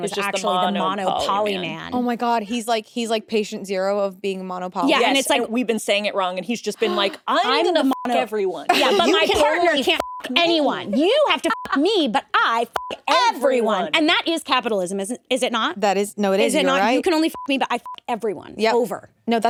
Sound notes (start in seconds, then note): 7.7 beep; 9.8 beep; 12.7 beep; 17.2 beep